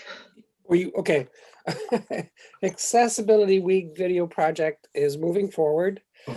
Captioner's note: chuckling